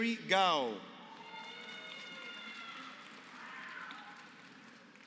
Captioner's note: applause